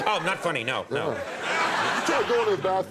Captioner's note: audience laughs